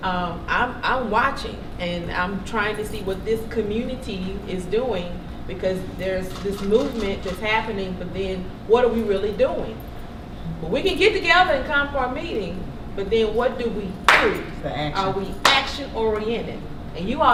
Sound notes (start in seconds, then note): 14.0 claps